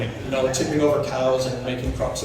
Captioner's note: audience laughter